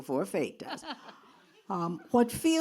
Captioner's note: laughs